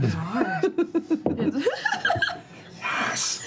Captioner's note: chuckles